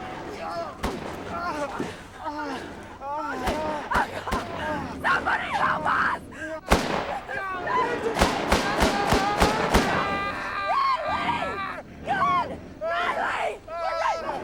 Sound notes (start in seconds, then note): 0.0 gun bangs; 0.1 groaning; 6.6 gun bangs; 7.1 shouting; 13.0 Friedman yells